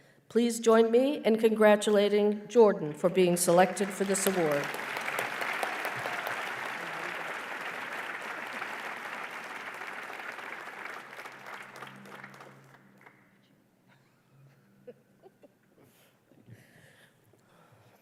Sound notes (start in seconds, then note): 5.5 applause